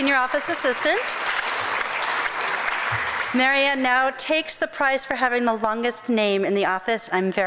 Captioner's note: crowd applause